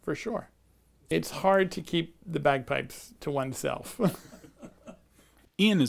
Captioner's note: laughs